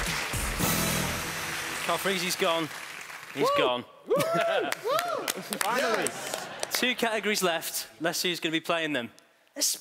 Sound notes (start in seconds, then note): 4.0 cheering